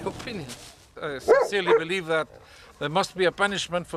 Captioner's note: dog barking